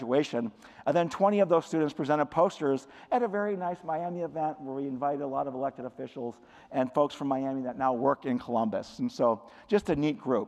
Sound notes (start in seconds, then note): none